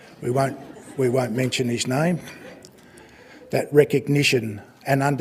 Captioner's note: laughter